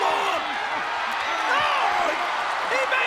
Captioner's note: audience cheering